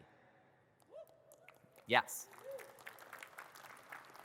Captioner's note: audience cheers and claps